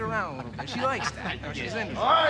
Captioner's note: men laughing